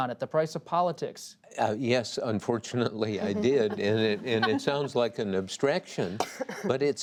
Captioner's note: laughter